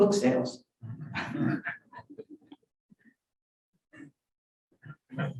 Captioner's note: audience laughing